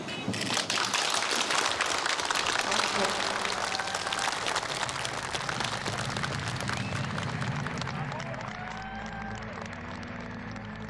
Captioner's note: applause